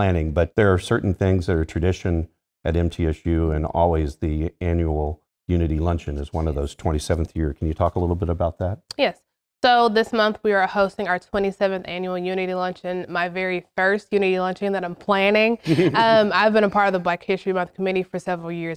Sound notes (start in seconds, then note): 15.6 laugh